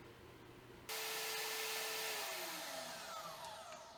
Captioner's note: saw whirls